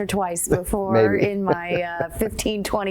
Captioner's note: laughs